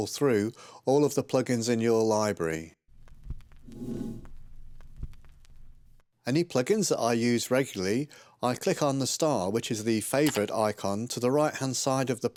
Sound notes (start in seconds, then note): 3.7 text whooshes